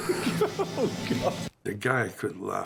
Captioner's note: both laughing